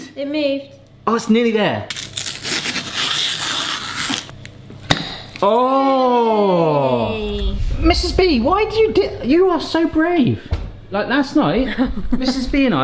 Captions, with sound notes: - Oh it moved! - It moved. - Aw, it's nearly there. (tape unrolling) (jar seal popping) Oh! - Yay. - Mrs. B., why'd you do you are so brave. Like last night, Mrs. B.and I,